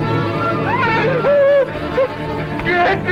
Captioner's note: Ben screaming